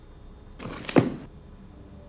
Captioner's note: book slamming